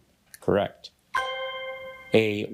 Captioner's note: bell dings